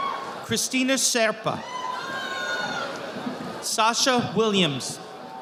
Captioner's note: audience applauding